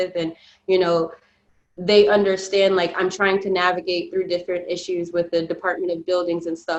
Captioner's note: none